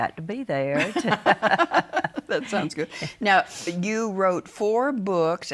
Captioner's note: both laughing